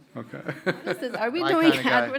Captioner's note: panelists laughing